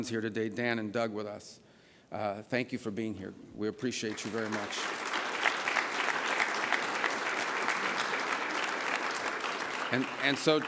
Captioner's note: applause